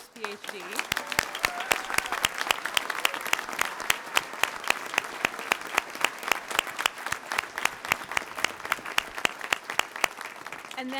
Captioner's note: applause